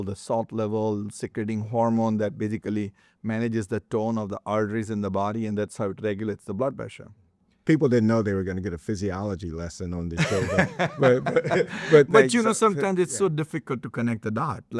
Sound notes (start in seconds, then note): 10.2 laughing